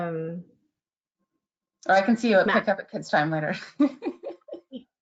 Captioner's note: laughs